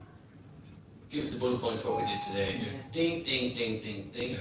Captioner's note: audio distorts